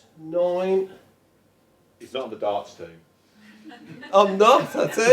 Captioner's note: audience chuckles